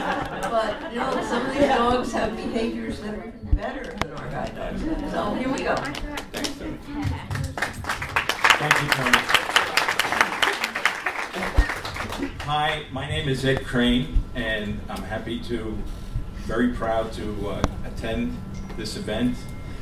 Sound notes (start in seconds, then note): 0.0 audience laughs; 7.2 applause